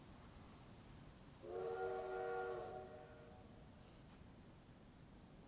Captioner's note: train whistle blows